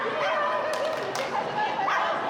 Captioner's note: dog continues barking; clapping and chanting